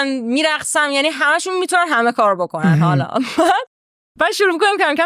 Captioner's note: laughs